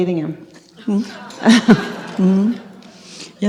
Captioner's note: laughter